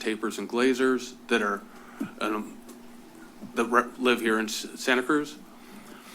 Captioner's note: stuttering